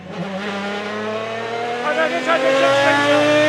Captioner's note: engine revving